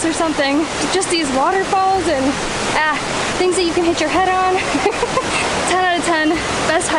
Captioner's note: laughs